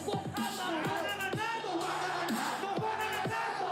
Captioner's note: crowd